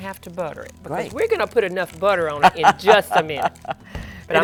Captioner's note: laughter